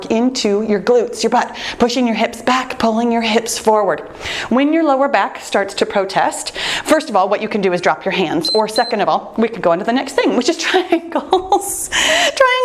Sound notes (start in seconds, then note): 8.4 timer beeps; 11.9 laughing